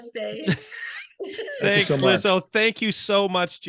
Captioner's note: laughing